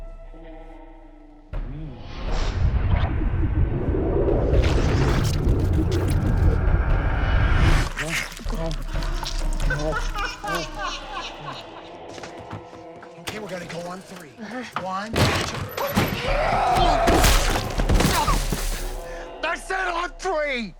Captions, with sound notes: [whooshing sounds] [munching] - [laughs] - OK, we're gonna go on three. - Uh-huh. - 1, 2-- [shouting] [thudding] I said on three.